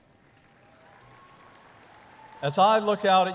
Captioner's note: audience applauding